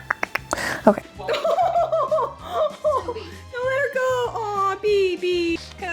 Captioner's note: laughs